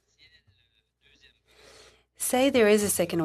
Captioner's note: speaking in French